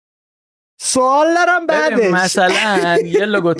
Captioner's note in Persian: خنده